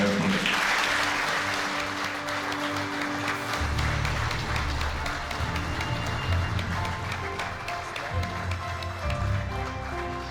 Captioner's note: applause